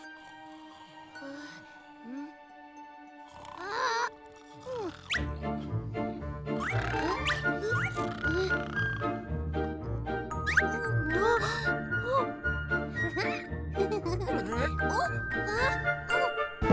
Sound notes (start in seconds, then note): 10.8 both gasp; 13.8 chuckles; 14.6 Barri straining